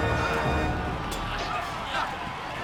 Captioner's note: men yelling and grunting; metal clanging